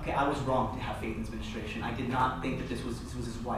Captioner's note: none